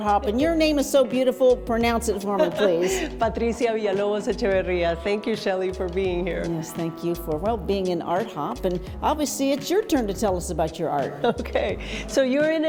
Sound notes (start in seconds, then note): 2.3 laughs